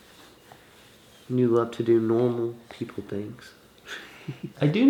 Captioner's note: laughs